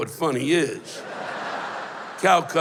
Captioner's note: laughter